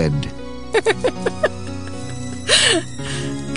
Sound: laughing

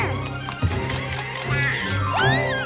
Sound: camera shutter clicks

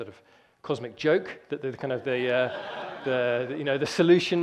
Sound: audience laughter

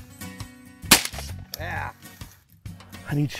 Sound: gun firing

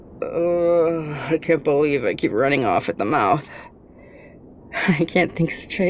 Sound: muffled groan as if hiding face

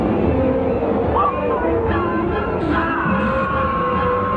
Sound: yelling

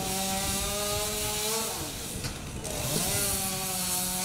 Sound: chainsaw buzzing

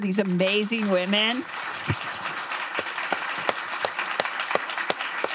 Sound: audience clapping

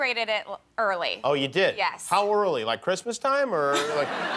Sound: laughter

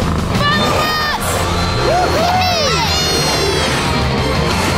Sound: laughing

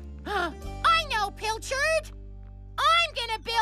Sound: gasps

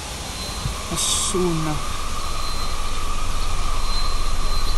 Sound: car screeching

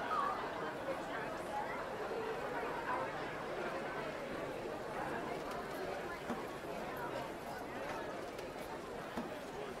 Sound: distant chattering & kids playing

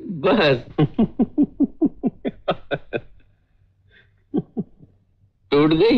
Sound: laughs

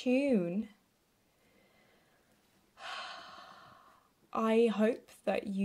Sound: sighs with relief - we did it, folks!

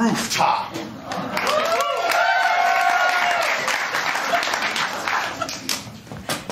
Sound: cheers & applause

